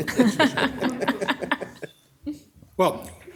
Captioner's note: council members laughing